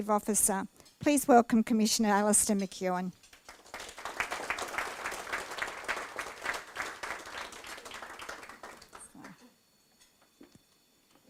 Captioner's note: applause